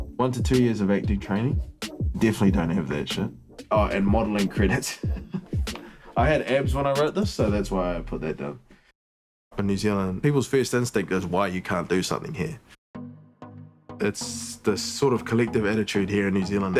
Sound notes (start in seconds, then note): 4.6 laughs; 12.9 upbeat music